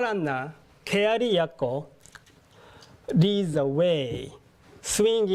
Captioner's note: speaking japanese